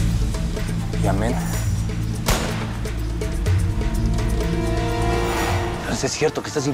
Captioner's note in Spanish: Disparo